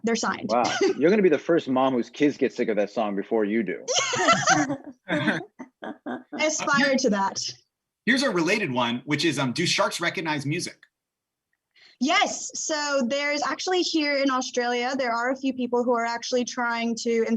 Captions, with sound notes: They're signed. - Wow, you're gonna be the first mom whose kids get sick of that song before you do. (laughing) - I aspire to that. - Here's a related one. Which is do sharks recognize music? - Yes, so there's actually here in Australia there are a few people who are actually trying to,